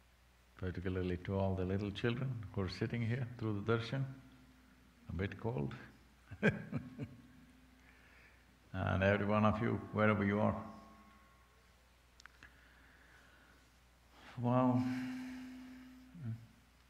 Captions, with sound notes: Particularly to all the little children, who are sitting here through the Darshan, a bit cold, (Laughs) and every one of you, wherever you are. Well...